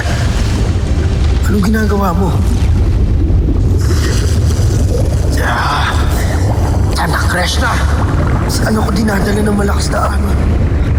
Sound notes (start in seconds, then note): 2.9 whooshing & swirling; 5.7 adamus groans